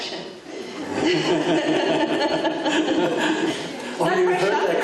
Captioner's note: laughing drowns out other sounds